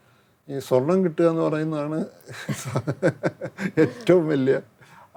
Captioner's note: laughs